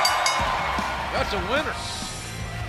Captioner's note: bell ringing